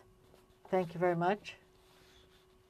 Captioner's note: speaking french